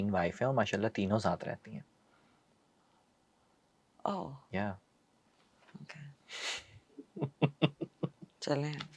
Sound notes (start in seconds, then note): 6.3 nasal sound; 7.0 laughter